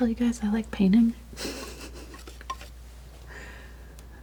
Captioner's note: laughs